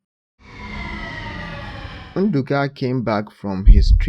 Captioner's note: screech